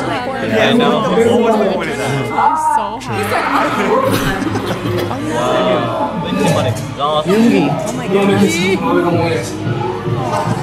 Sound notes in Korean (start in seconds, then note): 2.2 소리치며; 3.1 기침; 6.0 가쁜 숨